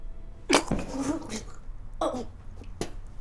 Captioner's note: Phoebe vomiting